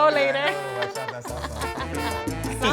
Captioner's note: laughter